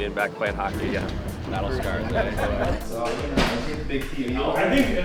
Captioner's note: laughs